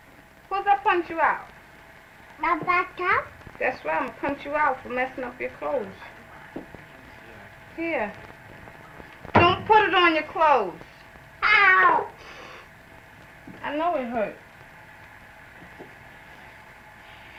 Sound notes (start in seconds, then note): 9.2 slaps hand and table loudly